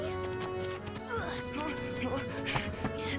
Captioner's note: grunting